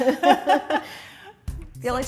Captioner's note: laughter